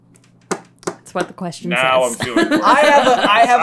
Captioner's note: laughs